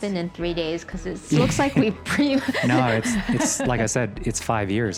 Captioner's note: laughing